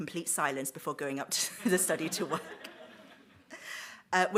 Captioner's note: audience laughs